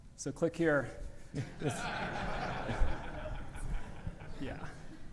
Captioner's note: audience laughing